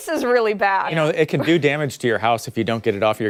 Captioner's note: laughter